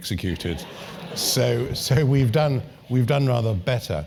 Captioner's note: laugh